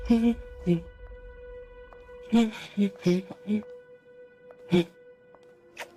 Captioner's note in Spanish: Diana tararea